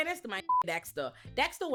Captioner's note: beep